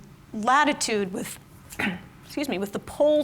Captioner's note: clears throat